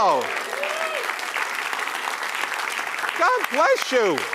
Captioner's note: applause